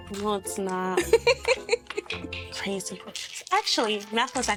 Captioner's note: laughing